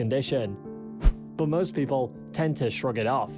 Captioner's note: screen swishes